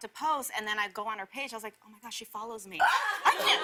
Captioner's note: laughter